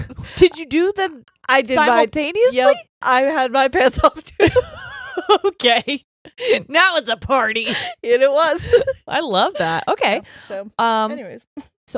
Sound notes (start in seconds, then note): 0.0 chuckles; 4.4 both laughing